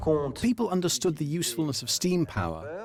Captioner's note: voiceover